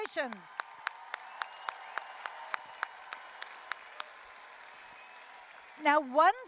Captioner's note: applause, cheering